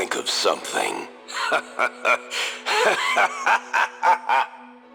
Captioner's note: laughing